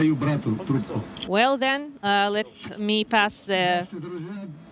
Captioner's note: speaking foreign language